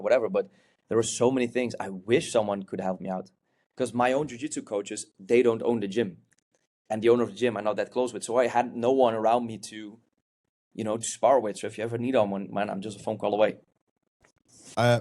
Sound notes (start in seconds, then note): none